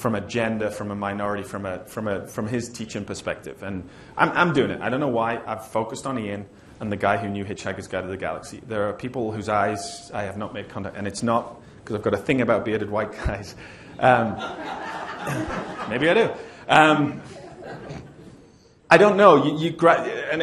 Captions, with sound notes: gender, from a minority, from his teaching perspective. And I'm doing it. I don't know why I've focused on Ian and the guy who knew Hitchhiker's Guide to the Galaxy. There are people whose eyes I have not made contact, and it's not 'cause I've got a thing about bearded white guys. (laughter) Maybe I do. I don't know.